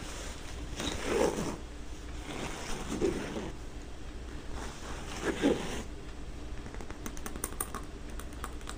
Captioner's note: scratching on canvas and tapping buttons